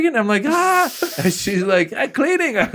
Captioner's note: speaking in foreign language; screaming